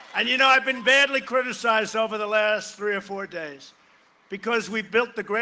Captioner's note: cheering and applause